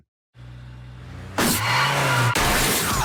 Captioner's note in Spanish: motor del vehículo zumbando